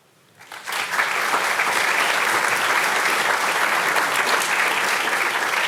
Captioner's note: audience applauding